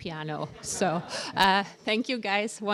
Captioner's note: laughter